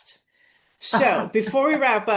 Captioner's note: laughs